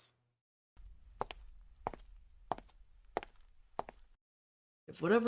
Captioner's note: footsteps